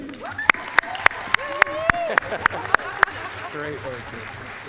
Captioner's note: applause